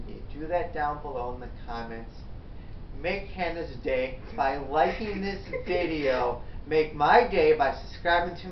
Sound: laughs

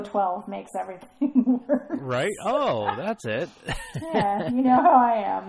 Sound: laughs

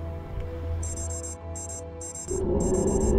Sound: beeping

